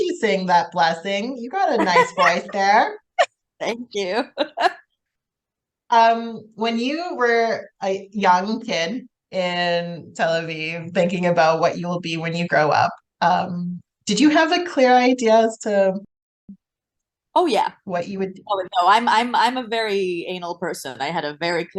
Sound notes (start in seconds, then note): 1.7 laughing